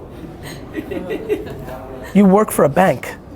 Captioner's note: laughter